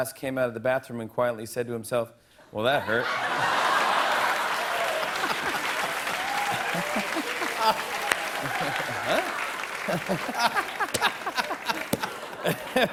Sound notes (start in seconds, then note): 2.8 laughter and applause; 9.6 laughter